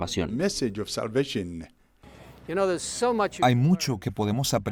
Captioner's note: Hablando idioma extranjero